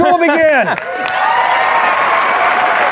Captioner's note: cheering and applause